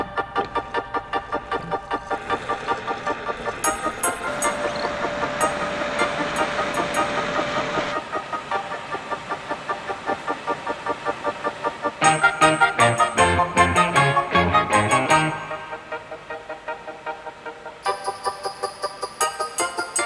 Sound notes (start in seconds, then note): 0.3 bright upbeat music; 5.5 machine whirring; 12.0 bright upbeat music